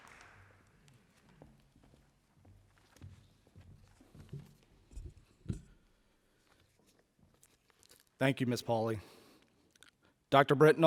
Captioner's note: applause